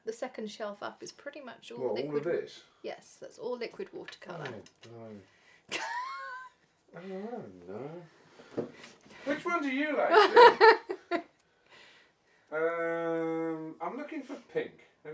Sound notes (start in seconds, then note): 5.8 laughs; 10.1 laughs